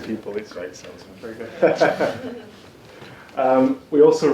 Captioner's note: laughs